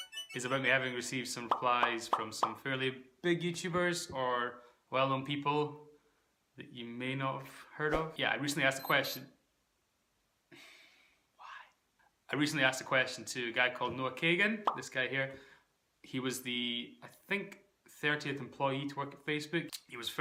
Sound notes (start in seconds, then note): 8.8 watch beeps